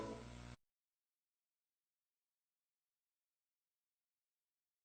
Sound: silence

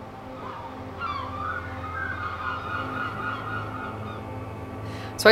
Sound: birds squawking

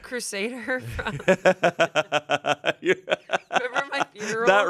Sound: laughs

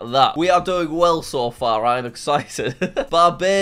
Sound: laughs

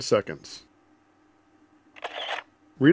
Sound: shutter click sound

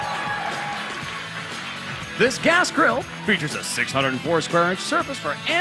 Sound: cheers and applause

